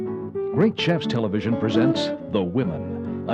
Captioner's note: voiceover